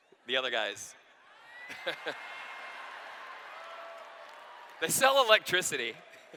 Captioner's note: laughter